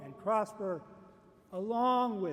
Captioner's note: none